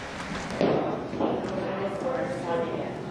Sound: chatter

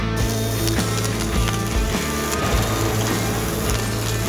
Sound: upbeat music; welding noise

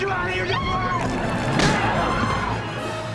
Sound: grunting

